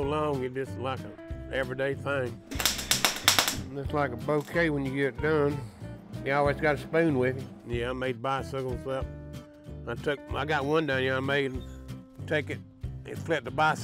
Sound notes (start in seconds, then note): 4.2 welder crackling